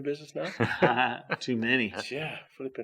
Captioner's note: chuckles